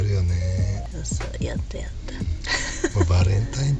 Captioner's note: laughs